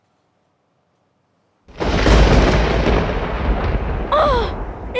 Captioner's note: sounds of thunder